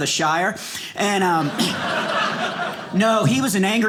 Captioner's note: audience laughing